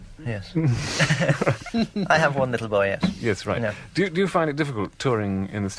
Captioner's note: laughter